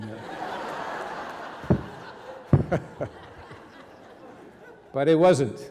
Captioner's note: audience and reverend laughing